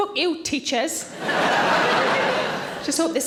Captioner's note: audience laughing